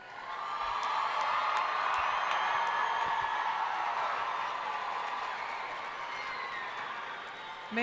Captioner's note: cheering